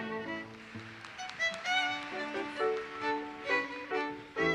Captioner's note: audience applauses